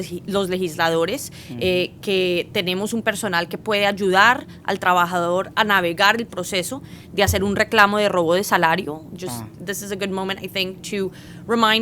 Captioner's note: speaking spanish